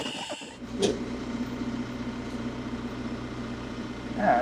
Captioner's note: lift whirring